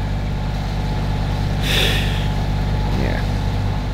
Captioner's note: deep sigh